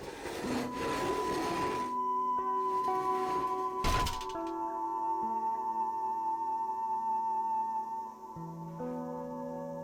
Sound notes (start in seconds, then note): 3.8 thud